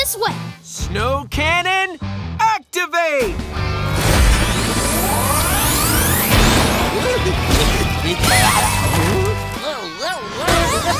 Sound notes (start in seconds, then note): 6.9 giggling